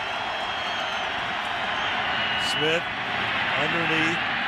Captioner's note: cheering